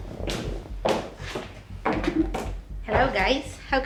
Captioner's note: footsteps